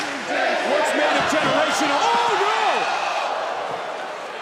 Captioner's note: applause